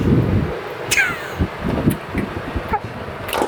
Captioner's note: laughing